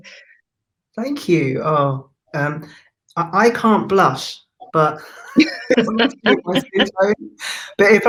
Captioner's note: laughs